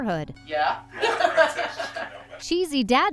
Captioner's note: laughing